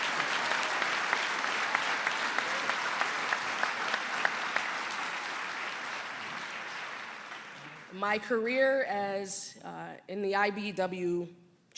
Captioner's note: applause